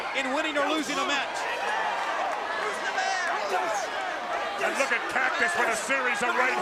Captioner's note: crowd cheering